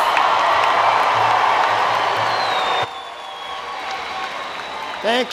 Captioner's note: applause and Cheering